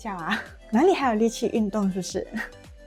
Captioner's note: laughs